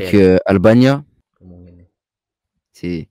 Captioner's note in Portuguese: Fale albanês